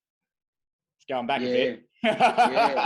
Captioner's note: laughing